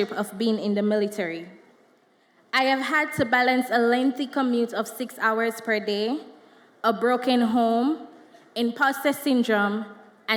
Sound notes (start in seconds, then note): none